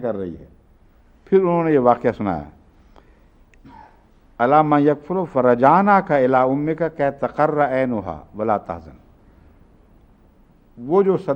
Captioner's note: Arabic